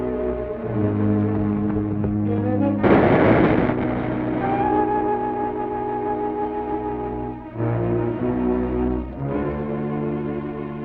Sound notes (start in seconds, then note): 2.8 gunshot firing; 7.9 menacing music